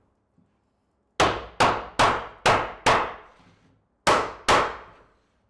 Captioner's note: hammer pounding